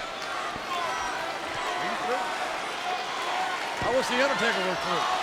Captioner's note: crowd chattering